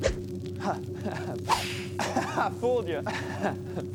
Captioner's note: laughs